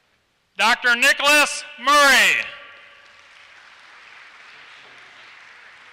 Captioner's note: applause